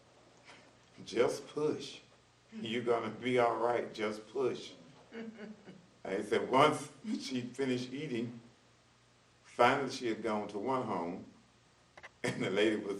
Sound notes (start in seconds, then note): 11.4 laughs